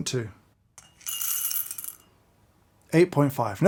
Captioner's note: coffee beans pouring